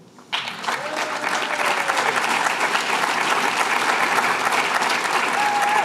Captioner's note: applause